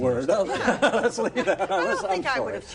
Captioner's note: group laughing